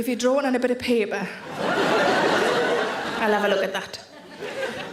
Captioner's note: audience laughing